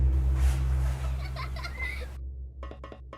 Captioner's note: girl laughing